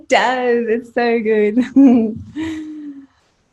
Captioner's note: giggles